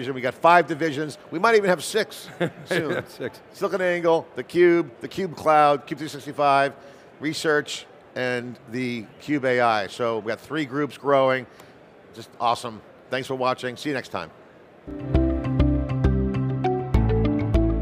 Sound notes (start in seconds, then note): 2.3 laughs; 14.8 bright music